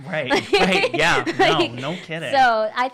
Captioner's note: laughing